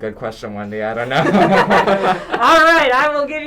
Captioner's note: laughter